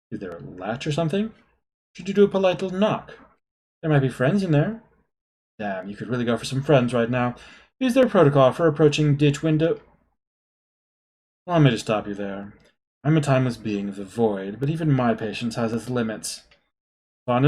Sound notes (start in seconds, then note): none